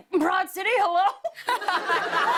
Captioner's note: laughter